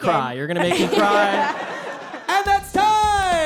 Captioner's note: group laughs